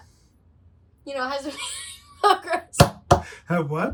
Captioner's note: laughs